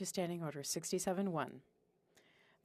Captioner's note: speaking FRENCH